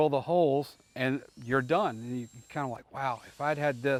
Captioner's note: drill machine whirring